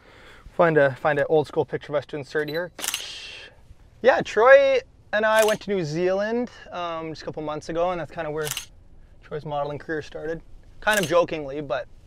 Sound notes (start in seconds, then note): 2.8 camera shutter clicks